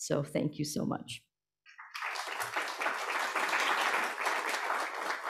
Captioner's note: applause